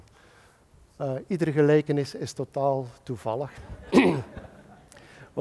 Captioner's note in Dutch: gelach